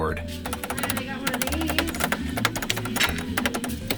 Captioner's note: keyboard clicking